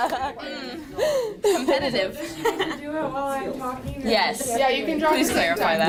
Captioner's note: laughter